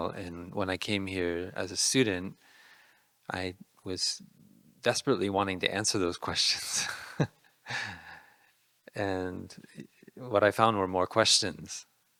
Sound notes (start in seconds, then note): 7.1 laughing